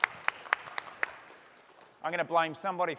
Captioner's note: applause